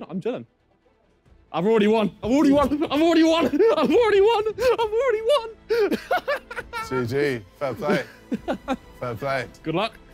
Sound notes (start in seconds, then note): 6.2 laughing